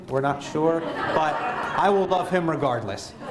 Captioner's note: laughter